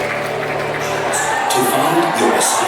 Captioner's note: cheering